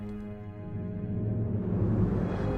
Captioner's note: deep rumble